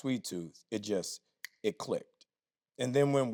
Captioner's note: snaps fingers